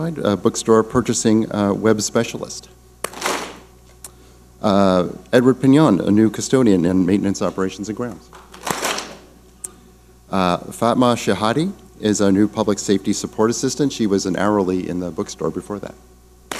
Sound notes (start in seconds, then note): 3.0 clap smack; 8.6 clap smack